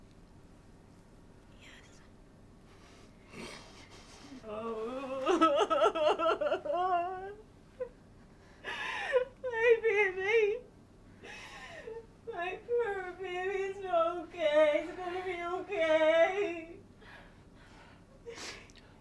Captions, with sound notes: - Yes. (sobbing) - Why did he? My baby it's okay. It's gonna be okay.